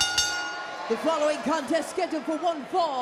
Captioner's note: bell rings